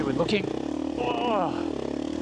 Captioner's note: exhales